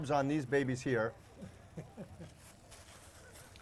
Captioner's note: laughs